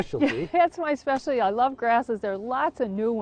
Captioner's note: laughs